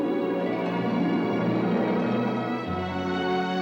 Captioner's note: none